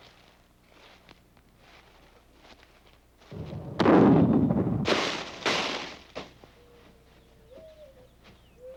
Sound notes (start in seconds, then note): 3.3 gunshot